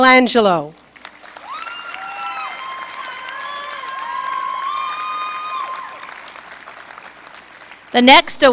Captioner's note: applause, Cheering